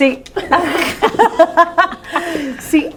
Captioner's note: laughing